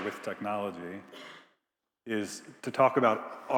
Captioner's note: attendee coughing